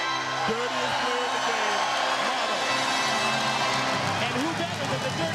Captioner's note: crowd cheers